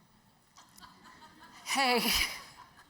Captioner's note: audience chuckles